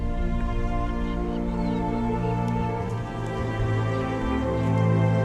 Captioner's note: animals calling